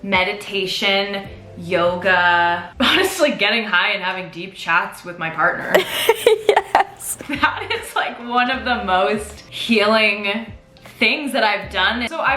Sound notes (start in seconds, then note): 5.6 laughs